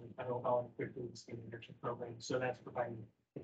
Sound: speaking faintly

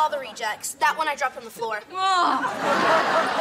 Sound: groans

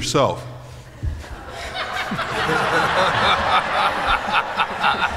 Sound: laughter

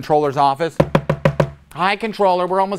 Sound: knocking

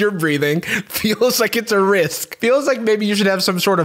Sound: laughing

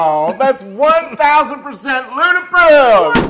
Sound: laugh

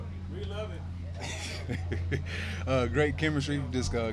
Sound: laughing

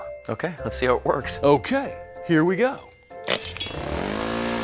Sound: engine loud engine noise

